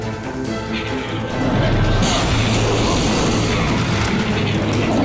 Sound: monsters growling

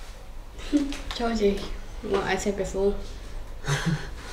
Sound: laughs

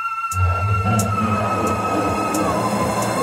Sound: evil laughter

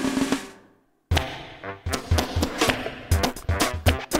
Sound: armpit farts

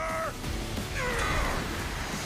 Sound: grunting

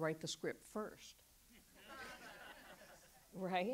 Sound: audience laughs

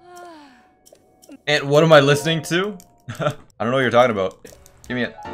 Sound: laugh

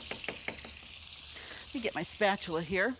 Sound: meat sizzling

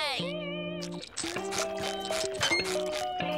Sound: chomping loudly

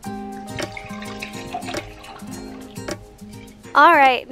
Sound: wine splashing

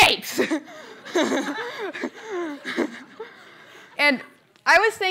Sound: laughter

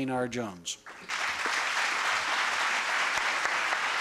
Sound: applause

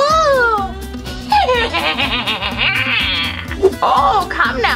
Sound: witch laughs

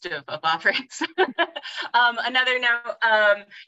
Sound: laughs

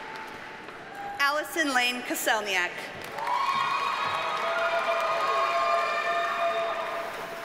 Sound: audience cheers and applauds

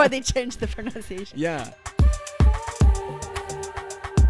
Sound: voiceover

